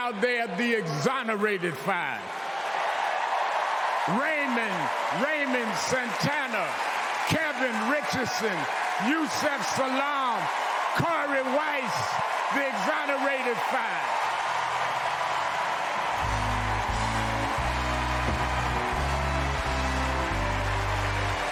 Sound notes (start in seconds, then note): 8.2 cheers and applause; 21.3 cheers and applause